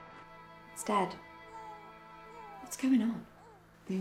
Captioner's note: baby crying